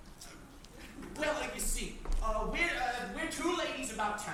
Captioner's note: stammers